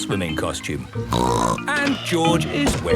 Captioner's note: snorts